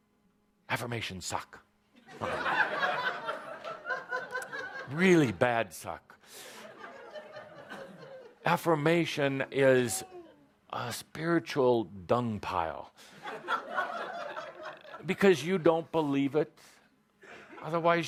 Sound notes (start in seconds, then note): 2.0 laughter